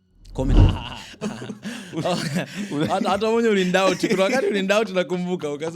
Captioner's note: laughter